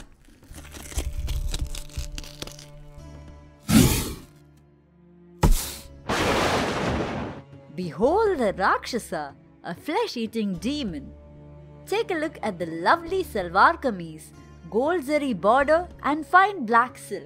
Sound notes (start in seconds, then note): 3.4 explosion; 6.0 lightning strike